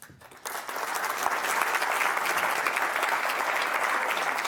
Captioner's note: audience applauding